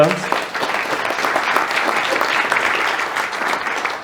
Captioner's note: hand clapping